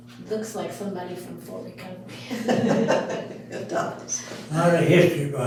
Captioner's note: all Laughing